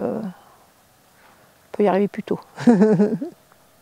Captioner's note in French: Rires